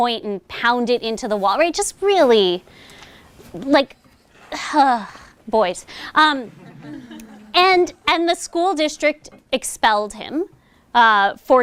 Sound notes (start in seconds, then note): 6.3 chuckling